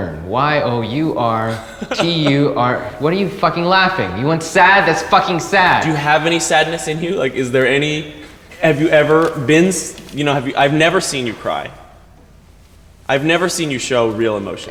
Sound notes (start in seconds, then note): 2.3 A.J. laughs